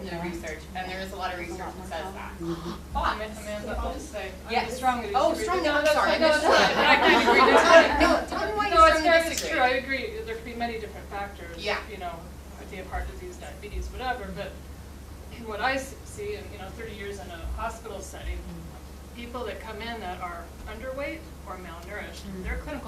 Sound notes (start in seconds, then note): 6.4 laughter